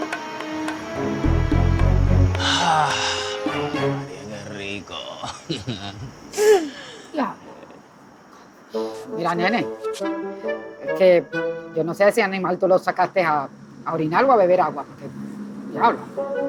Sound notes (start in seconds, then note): 2.4 sigh; 5.7 Ender laughs